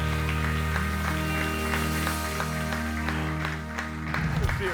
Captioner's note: audience applauds